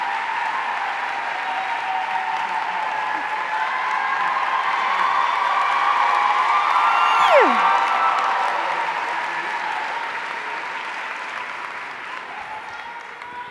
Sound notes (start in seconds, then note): 6.7 squeals